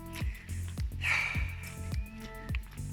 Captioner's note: sigh